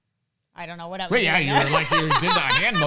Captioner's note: laughs